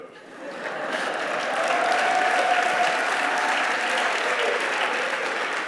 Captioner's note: applause